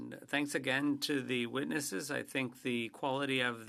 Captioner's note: speaking French